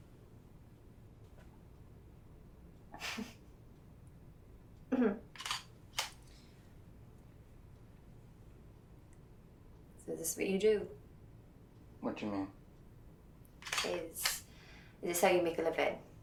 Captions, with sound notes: [Stef giggles nervously] -[clears throat] -[camera shutter clicks] So this is what you do? What do you mean? Is this how you make a living?